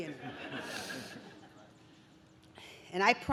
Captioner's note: audience laughs